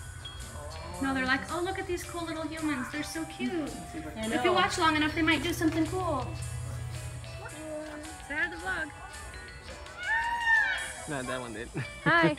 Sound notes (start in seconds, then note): 9.9 peacock noise